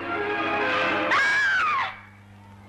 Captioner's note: screaming; people shouting in distance